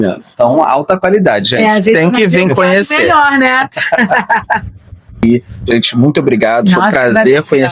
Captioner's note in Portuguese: risadas